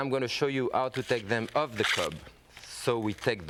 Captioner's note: shucking corn sound